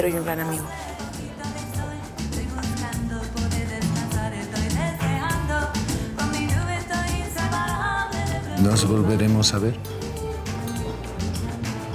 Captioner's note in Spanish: Susurrra